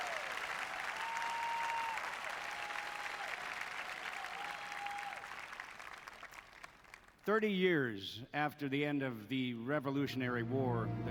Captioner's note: applause